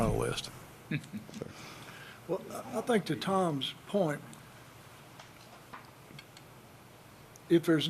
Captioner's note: laughter